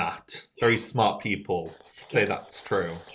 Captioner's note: chalk scratching